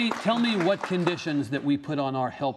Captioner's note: applause